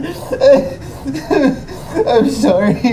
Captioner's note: Miles sobs